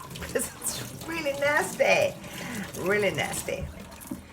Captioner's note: chuckling